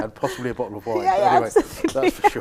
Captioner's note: laughing